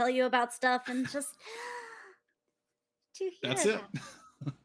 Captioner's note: gasps